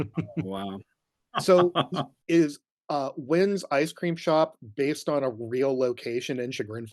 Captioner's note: laugh